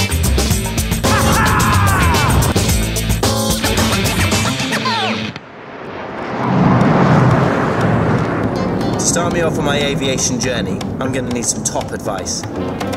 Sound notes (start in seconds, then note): 5.9 fight Jet sounds